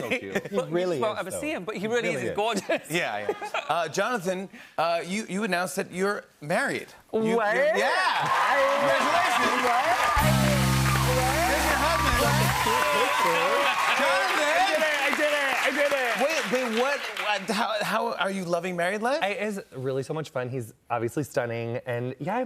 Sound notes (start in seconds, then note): 10.1 cheers and applause